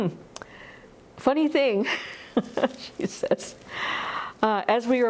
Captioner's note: laughs